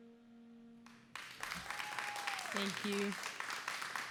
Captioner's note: applause